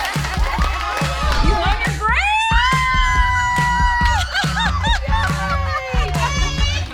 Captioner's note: group clapping and laughing; cheering; pop music